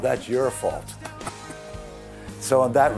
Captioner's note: laughing